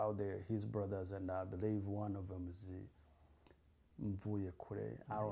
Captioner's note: non-english